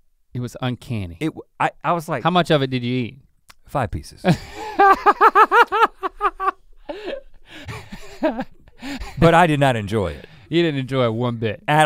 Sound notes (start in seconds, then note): 4.3 Link giggles